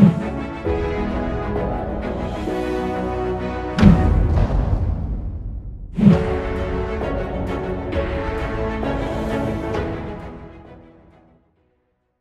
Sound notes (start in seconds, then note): 3.8 drum pounding; 5.9 majestic orchestral music; 6.0 price whooshing